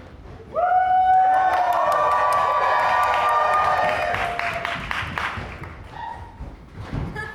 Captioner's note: cheers and applause